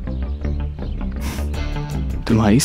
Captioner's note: Chuckles